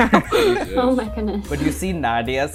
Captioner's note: laughter